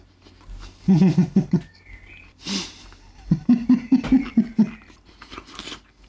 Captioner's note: laughing